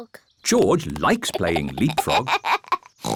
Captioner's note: laughs; oinks